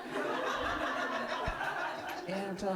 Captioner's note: audience laughing